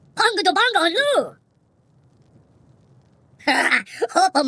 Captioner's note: speaking foreign language